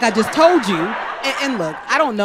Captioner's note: crowd laughs